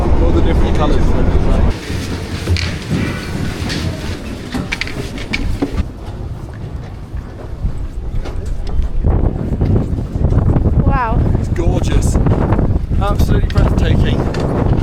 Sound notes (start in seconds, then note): 9.0 wind rushes